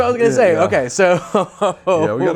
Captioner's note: laughs